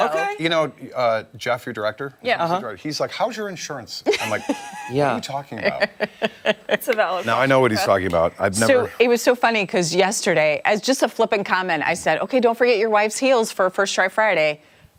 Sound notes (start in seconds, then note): 7.7 laughter